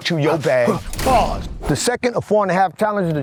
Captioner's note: door slams